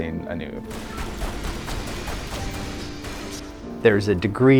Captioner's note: rounds firing